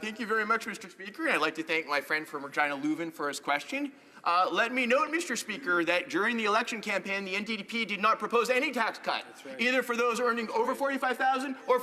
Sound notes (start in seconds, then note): 6.8 speaking alternate language